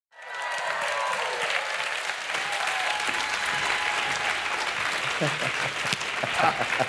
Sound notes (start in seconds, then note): 0.1 cheering and clapping; 4.9 laughing